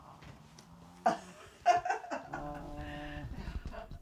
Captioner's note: laughing